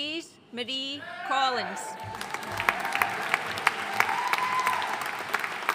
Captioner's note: audience cheering and applauding